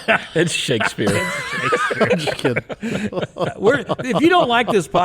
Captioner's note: people laughing